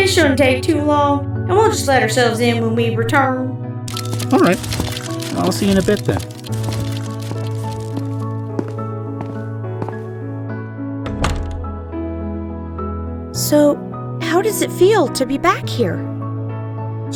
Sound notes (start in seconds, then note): 7.4 footsteps walking on hardwood floors; 11.0 door closes